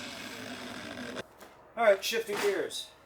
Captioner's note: drill whirring